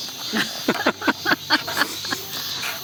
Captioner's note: laughs